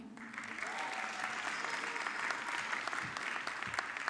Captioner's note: audience clapping